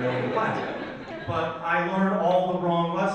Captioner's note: audience laughs